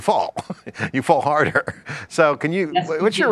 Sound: laughs

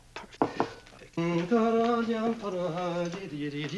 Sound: humming

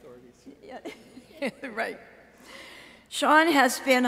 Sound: chuckles

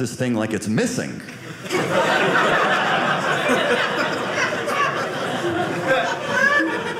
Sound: audience laughing

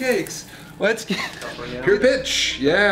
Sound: laughs

